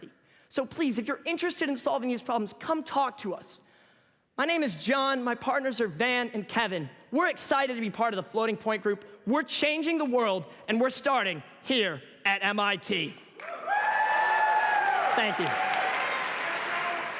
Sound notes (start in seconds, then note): 13.4 cheers and applause